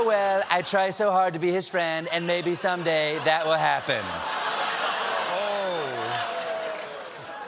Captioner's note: audience reacts